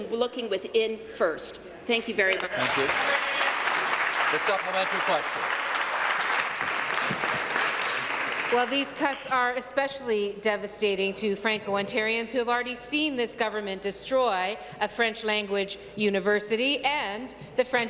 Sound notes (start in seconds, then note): 6.0 applause